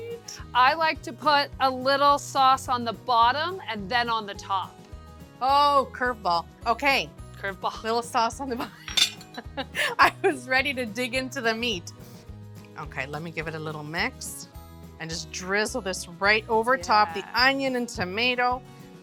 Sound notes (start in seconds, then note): 9.4 chuckles